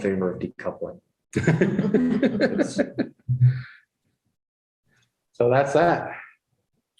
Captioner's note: laughter